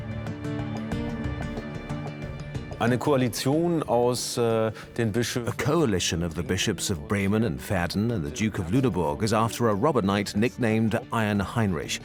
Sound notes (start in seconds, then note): 1.8 in German; 4.1 dubbed in English